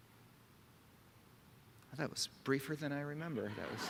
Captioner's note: laughter